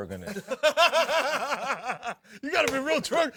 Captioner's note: laughter